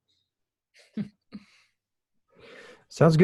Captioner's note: laughing